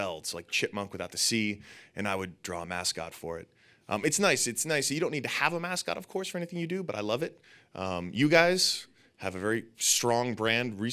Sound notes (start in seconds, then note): none